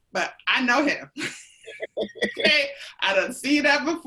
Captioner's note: laughing